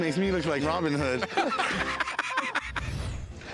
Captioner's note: laughter